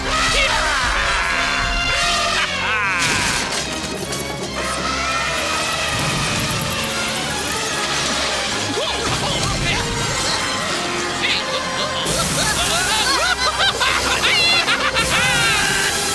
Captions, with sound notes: [Elephants Horning] [Crash] [Rats Squeaking] Woah! Hey! Wha- Uh oh. [Screaming And Laughing] [Procter Yelling] Cut!